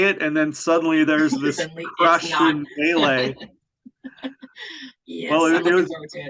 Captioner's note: laughs